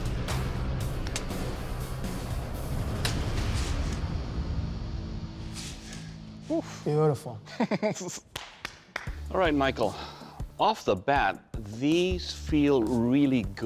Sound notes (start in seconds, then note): 7.4 laughs; 8.3 claps